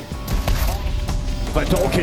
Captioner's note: gunshot ringing out